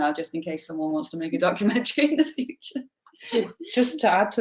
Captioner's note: chuckles